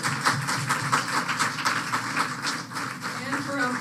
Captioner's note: applause